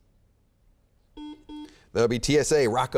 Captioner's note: beeping